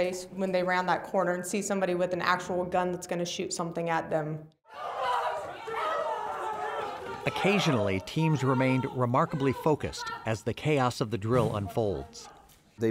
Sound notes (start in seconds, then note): 4.7 people yelling frantically